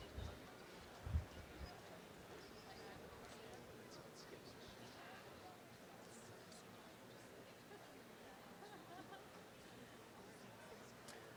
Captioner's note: background chatter